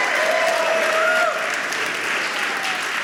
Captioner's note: audience cheering